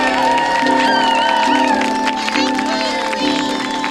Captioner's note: cheering and applause